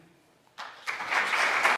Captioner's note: audience applauding